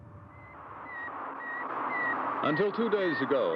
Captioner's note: beeping